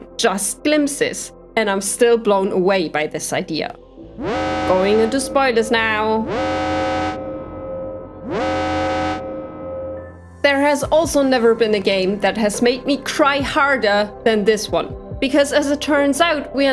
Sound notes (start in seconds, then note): 4.1 alarm